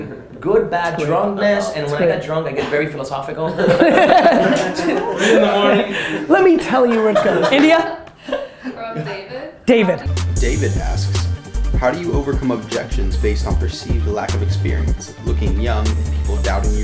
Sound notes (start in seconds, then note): 3.5 laughter; 10.7 voiceover